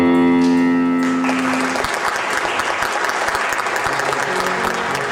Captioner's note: audience applauding; soft inspirational music